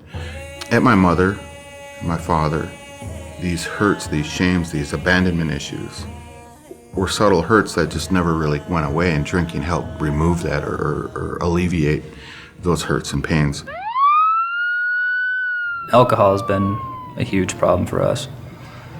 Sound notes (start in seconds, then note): 13.6 siren